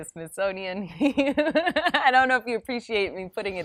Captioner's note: laughs